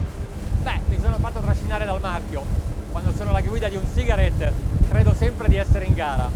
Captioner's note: speaking foreign language